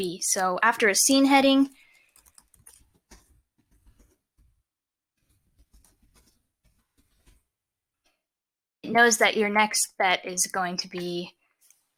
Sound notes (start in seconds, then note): 2.0 typing